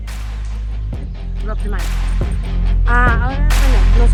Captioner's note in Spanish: habla en inglés